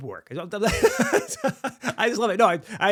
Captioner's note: laughing